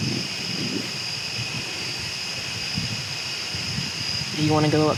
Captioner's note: crickets chirping